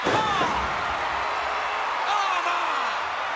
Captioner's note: crowd cheering